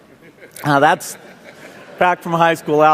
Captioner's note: laughter